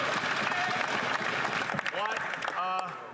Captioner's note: some Applause